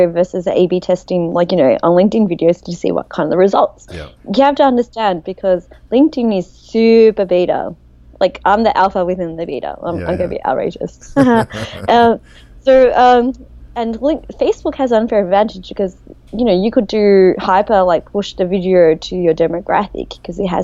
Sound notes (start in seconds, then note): 11.0 laughs